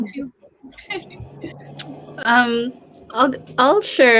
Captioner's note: laughing